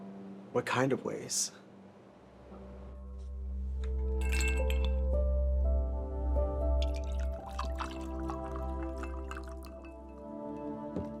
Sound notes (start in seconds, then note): 4.2 ice hitting glass; 6.8 liquid pouring